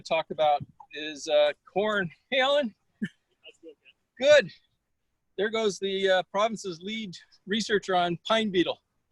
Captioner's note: muffled voice